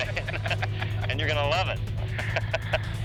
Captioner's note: laughs